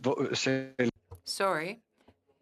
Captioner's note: speaking in French